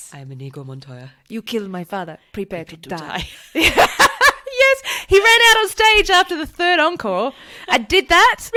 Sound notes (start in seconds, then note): 3.0 laughs